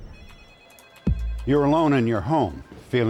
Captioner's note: phone ringing